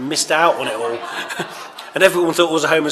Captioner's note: laughter